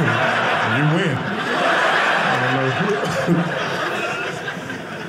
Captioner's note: audience laughing